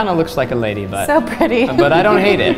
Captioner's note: laughs